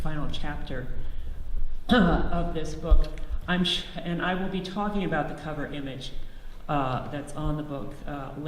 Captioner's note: clears throat